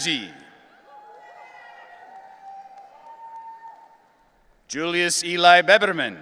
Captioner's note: audience cheering